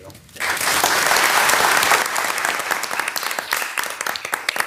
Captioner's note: participants clapping